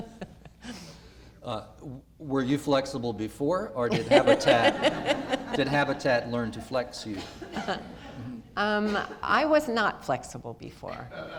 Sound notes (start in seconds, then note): 3.9 laughter